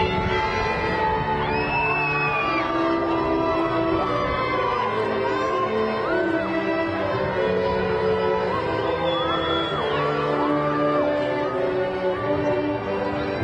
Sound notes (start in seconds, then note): 0.0 graduation music continues; 1.2 crowd cheering